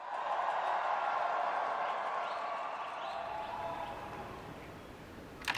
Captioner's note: applause